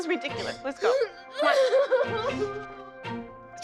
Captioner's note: sobbing